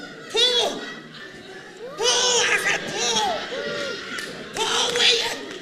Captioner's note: audience laughs